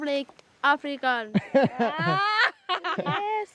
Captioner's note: laughing